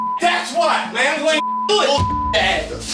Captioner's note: beep